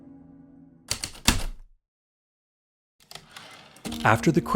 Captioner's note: heavy typewriter keystrokes, typewriter return slide